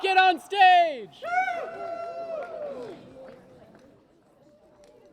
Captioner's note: cheers and applause